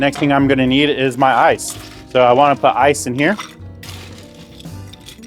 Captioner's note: ice clinks; glass clinks